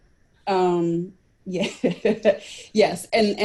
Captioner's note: chuckles